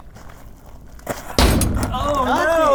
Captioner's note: ball bangs